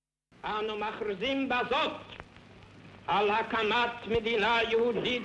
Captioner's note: speaking in foreign language